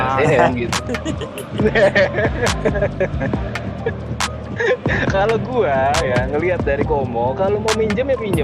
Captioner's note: laughs